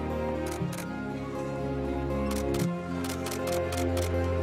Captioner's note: camera clicks